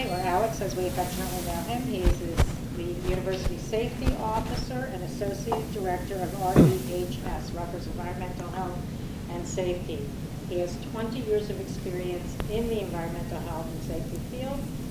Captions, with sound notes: or Alex, as we affectionately call him. He is the University Safety Officer (coughs) and Associate Director of RUHS, Rutgers Environmental Health and Safety. He has 20 years of experience in the environmental health and safety field,